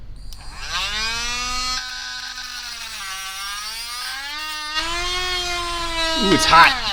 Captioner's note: grinding noises